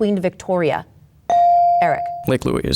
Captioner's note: bell dings